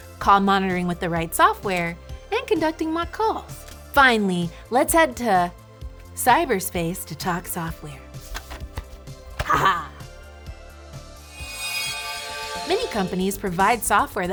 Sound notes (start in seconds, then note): 11.2 gentle chiming